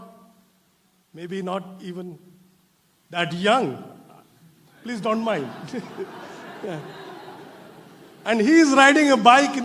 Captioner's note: laughter